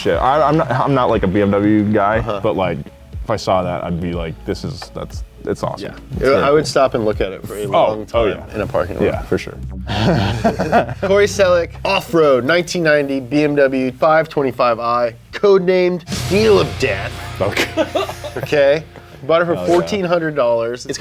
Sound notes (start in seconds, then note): 9.8 laughs; 17.1 laugh